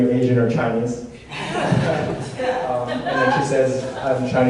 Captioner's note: audience laughs